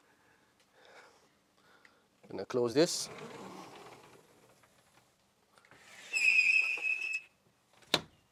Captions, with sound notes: Gonna close this. (door sliding and squeaking)